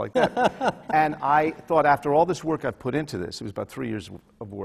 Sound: laughs

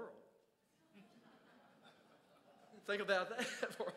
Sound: crowd chuckles

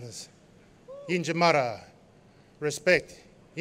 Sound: non-english speech

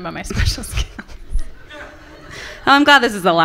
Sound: laughter from the audience

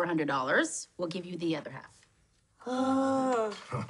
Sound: both groan; chuckles

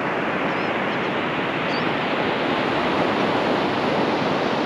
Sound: gulls calling nearby

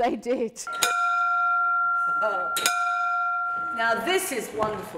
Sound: bell rings

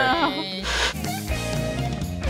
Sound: Static

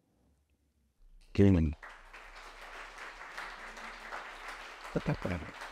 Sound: audience applauding

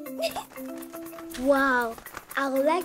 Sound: giggling

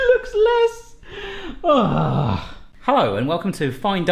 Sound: sighing

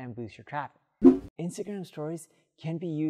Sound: digital whooshing

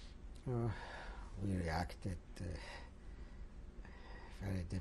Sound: sighs

